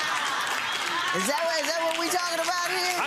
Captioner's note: clapping; laughing